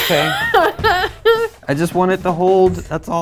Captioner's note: laughs